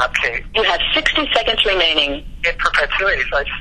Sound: recorded voice: You have 60 seconds remaining

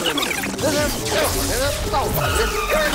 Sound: electricity crackling

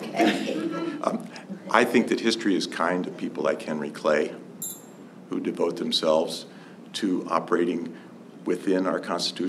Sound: laughter

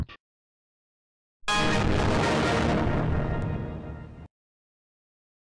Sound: Windows Server 2003.EXE Shutdown Sound

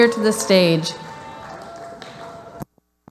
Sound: audience applauding

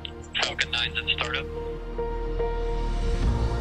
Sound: voiceover; bright music

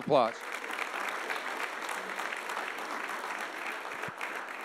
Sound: audience applauding

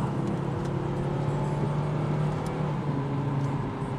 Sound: car engine revs

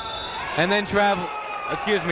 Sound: whistle blowing

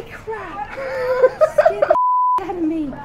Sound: costumed person laughing

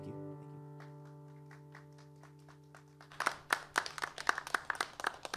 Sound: applause

